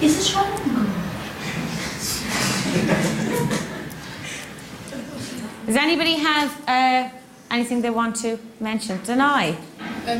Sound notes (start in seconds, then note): 1.4 pupils laughing